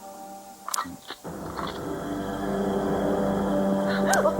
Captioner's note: gun cocking; suspenseful music